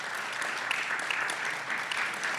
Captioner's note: applause